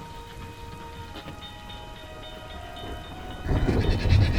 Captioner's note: train crossing ringing; whinnying